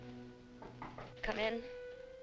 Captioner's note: knocking on door